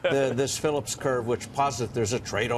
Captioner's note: laughter